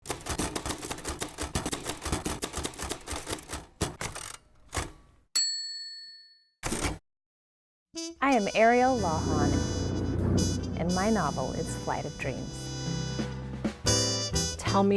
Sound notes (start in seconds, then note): 0.0 typewriter clicking; 5.4 bell dings; 13.3 gentle jazz music